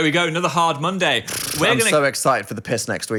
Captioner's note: blowing raspberry